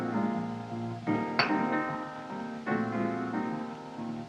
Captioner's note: glass Clinks On Counter